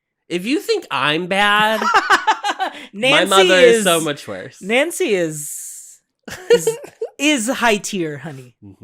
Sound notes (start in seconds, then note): 1.7 laughs; 6.3 giggles